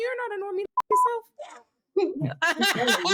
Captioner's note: beep